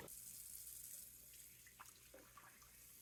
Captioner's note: sound of water running begins